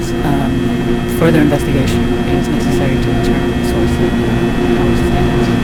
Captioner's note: voice fades